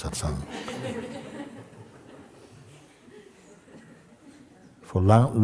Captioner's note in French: rires